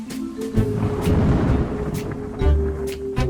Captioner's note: mysterious music; thunder clapping; mysterious music